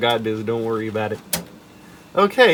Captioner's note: chunky floppy disk clunk